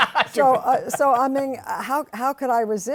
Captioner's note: laughter